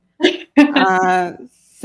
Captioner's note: laughs